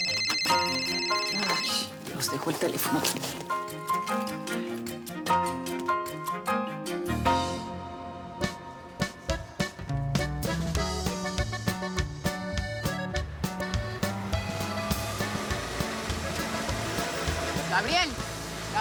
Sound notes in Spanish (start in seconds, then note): 2.3 Suena el celular